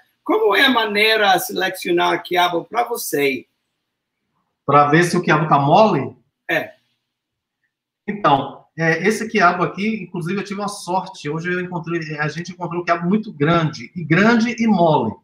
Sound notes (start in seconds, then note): 0.2 speaks portuguese; 4.6 speaks portuguese; 8.0 speaks portuguese